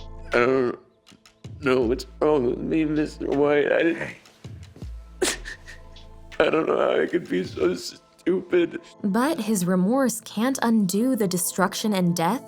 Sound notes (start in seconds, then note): 5.2 crying